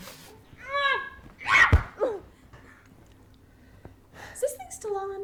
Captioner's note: Jessie screams